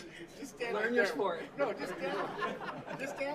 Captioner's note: laughter